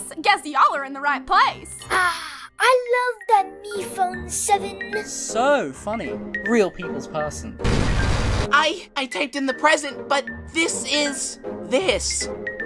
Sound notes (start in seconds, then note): 7.6 loud buzzing